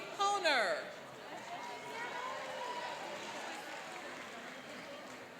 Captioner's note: cheering and applauding